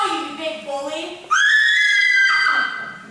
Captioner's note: Gina and Elsie scream